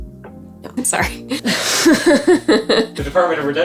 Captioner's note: laughing